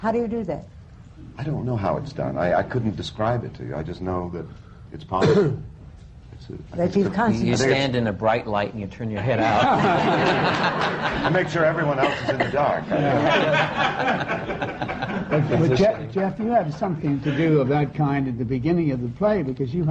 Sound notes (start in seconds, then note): 10.2 laughter; 14.0 laughter